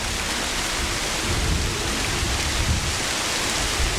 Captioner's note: wind & Running Water